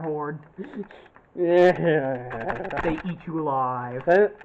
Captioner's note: disgust